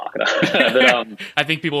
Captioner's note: laughing